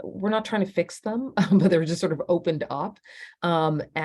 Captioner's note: laughter